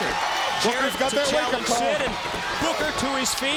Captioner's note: crowd cheering